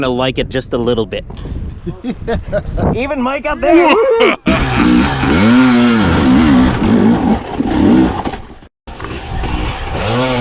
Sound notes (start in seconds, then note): 3.6 ha ha ha; 6.3 evil laugh